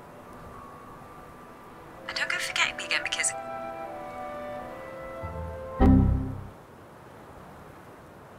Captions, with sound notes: now dont go forgetting me again because ( computer error ding)